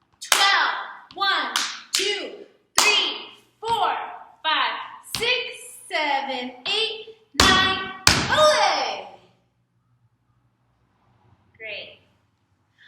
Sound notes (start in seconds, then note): 1.5 clap; 7.3 stomp